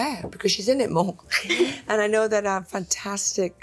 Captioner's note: both chuckle